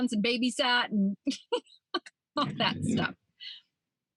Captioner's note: laughing